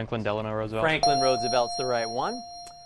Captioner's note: ding